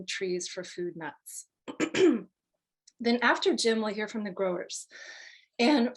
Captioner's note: cough